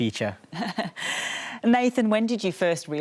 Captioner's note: laughs